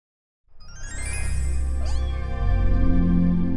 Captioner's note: cat meowing